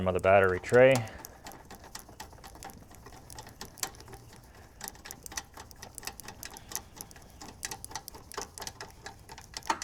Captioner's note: metal clanking